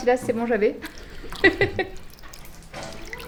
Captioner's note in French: Rires